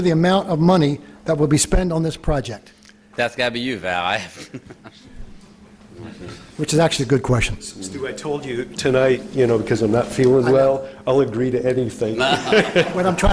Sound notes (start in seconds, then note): 4.2 laughter